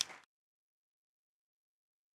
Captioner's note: applause